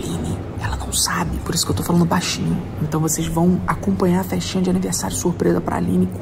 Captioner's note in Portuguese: sussurrando